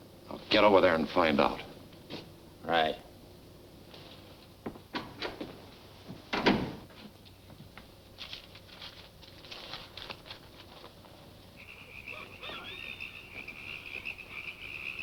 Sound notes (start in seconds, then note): 6.3 door closing; 11.2 frogs croaking